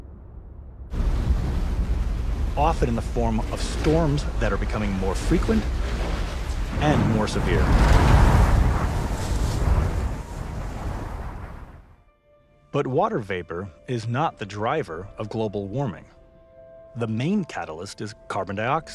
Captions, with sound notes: (water whooshing) Often in the form of storms that are becoming more frequent and more severe. But water vapor is not the driver of global warming.